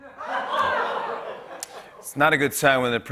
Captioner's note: laughter